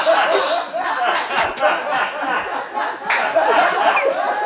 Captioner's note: crew laughs